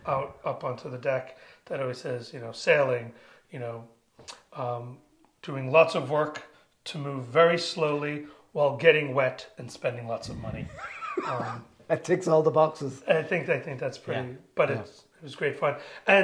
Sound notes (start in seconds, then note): 10.3 laughs